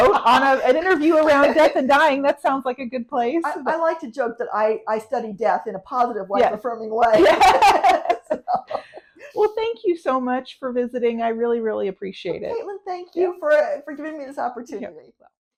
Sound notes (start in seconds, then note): 7.1 laughing